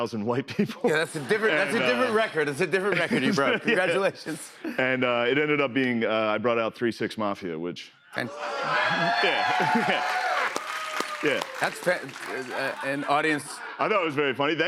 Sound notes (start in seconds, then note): 8.3 cheers and applause; 12.2 laughter